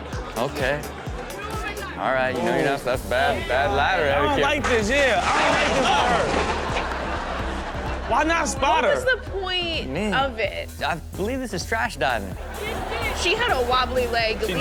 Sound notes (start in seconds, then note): 6.8 crashing sounds; 6.8 crowd laughs; 12.3 crowd laughs